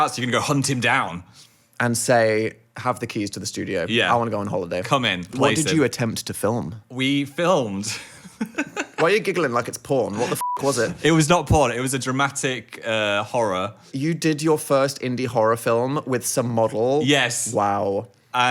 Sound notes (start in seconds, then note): 7.8 giggling